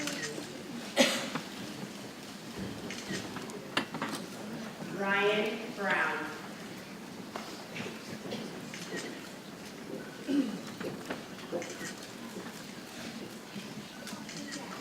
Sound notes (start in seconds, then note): 7.4 people chattering softly